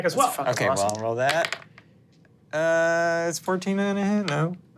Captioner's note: dice rolling